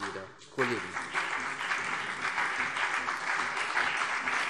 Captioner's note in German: Beifall CDU und BÜNDNIS 90/DIE GRÜNEN